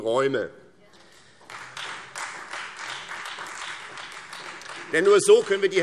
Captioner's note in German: Beifall Freie Demokraten